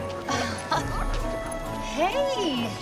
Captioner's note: Cassie laughs